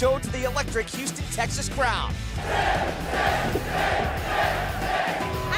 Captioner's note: fans chanting